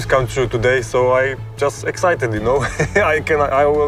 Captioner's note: laughs